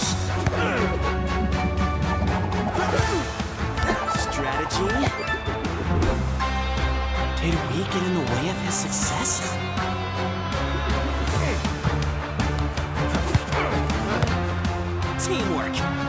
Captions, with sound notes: (grunts) - Strategy... Did we get in the way of his success? (grunts) Team work!